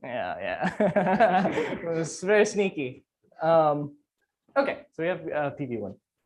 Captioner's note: laughs